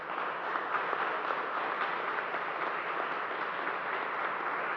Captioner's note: applause